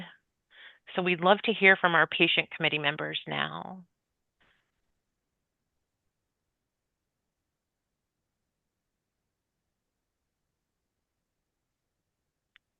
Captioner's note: pause